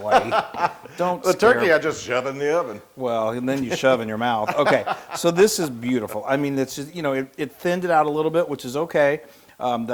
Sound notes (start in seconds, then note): 0.0 laugh; 4.3 laugh